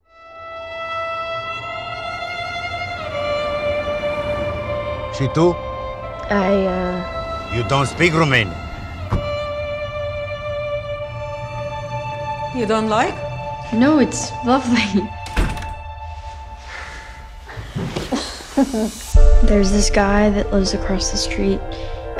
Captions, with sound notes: (suspenseful music) (taxi driver speaks in foreign language) - I, uh... - You don't speak Romanian. - You don't like? - No, it's lovely. (laughing) There's this guy that lives across the street